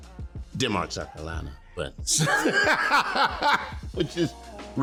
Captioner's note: laughing